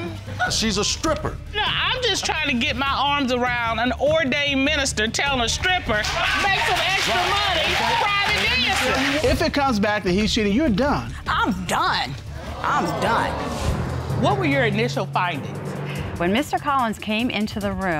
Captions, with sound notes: -She's a stripper. -No, I'm just trying to get my arms around an ordained minister telling a stripper, "Make some extra money private dancing." [applause] If it comes back that he's cheating, you're done. I'm done. I'm done. What were your initial findings? When Mr. Collins came into the room,